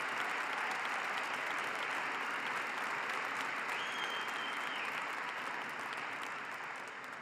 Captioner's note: applause